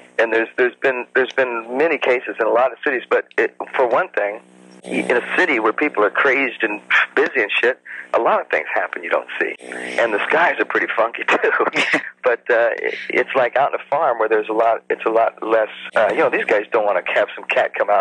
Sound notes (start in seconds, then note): 11.2 chuckles